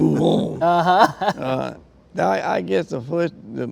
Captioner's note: laughs